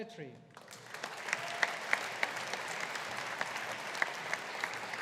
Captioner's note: audience applauding